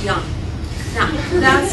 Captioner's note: laughter